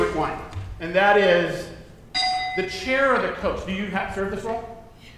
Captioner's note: dinging